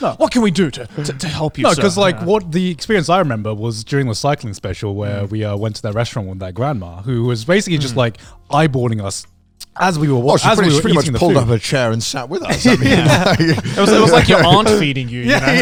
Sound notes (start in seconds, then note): 12.4 group laughs